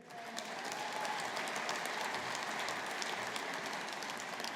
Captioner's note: audience applauding